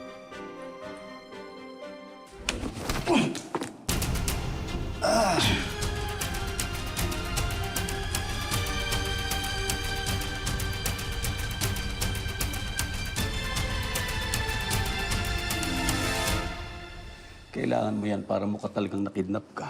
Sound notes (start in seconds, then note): 0.1 stirring music playing; 3.0 rafael grunts; 5.0 groans; 5.4 tense music playing